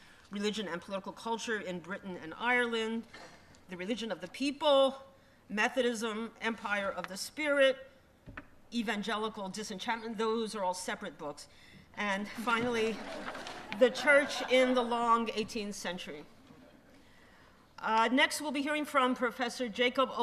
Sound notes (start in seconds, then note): 12.3 laughter